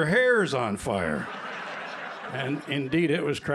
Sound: laughter

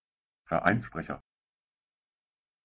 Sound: fast Pronunciation

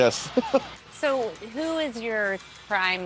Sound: they chuckle

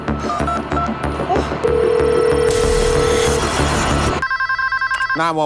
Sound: phone beeping and ringing

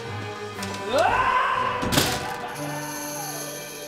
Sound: screaming

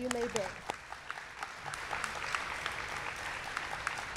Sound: audience clapping

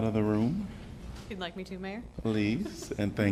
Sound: laughter

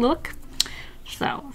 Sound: mouth Smack

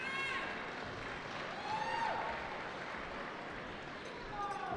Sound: cheering

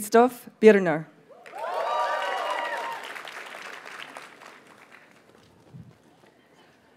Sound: audience cheers and applauds

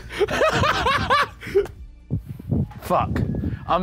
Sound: laughing

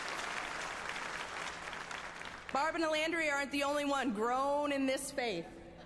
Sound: applause

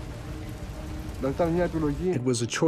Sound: speaks in foreign language

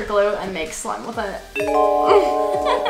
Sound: chimes; laughing

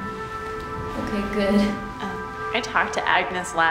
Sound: chuckles

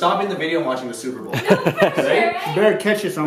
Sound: laughing

